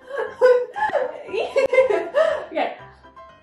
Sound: laughing

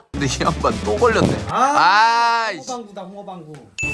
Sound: poof

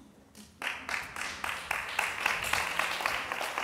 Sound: applause

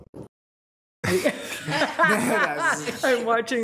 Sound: attendees laughing

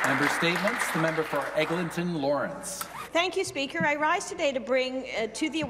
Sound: some Applause

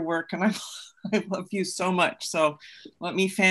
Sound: laughs

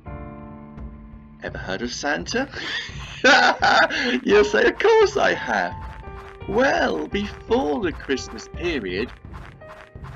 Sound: laughs!

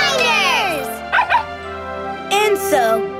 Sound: barking

